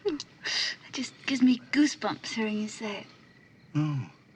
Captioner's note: giggling